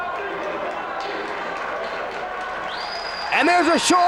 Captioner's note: spectators applauding